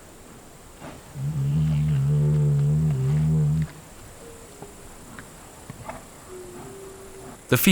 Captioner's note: odgłosy świerszczy, pomrukiwania niedźwiedzi